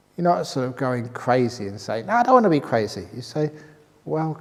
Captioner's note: none